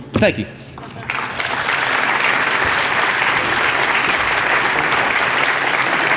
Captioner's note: applause